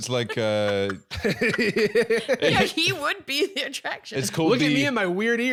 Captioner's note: laughing